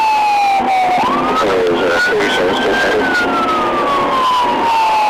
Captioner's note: voice on radio